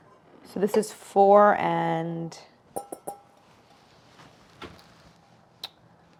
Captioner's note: tapping noises